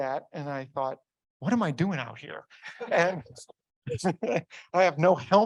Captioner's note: audience laughs